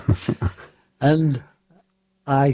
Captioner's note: laughter